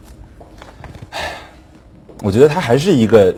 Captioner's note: sigh